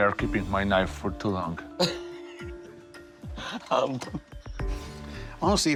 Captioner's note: laughs